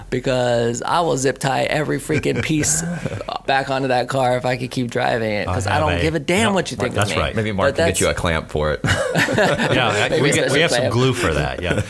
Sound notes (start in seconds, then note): 8.8 all laugh